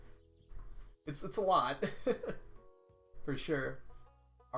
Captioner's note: laughs